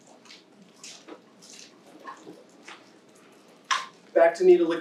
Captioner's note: objects clacking